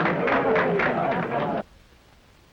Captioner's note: applause